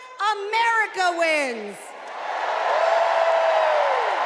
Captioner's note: cheers and applause